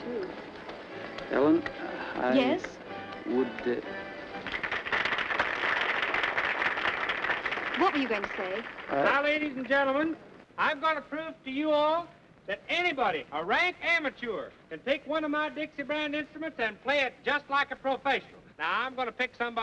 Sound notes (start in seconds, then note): 4.2 clapping